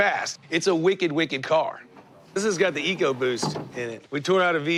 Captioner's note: none